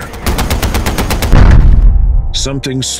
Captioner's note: helicopter bangs